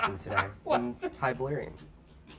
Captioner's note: David laughs